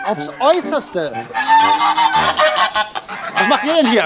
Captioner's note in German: Lautes Schnattern